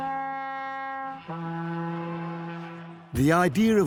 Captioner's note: blasts horn